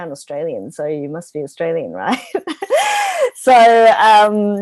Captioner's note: laughs